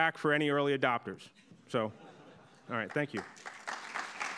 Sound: audience laughing; audience clapping

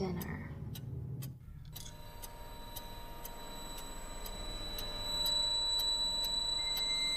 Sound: clock ticks; eerie noise

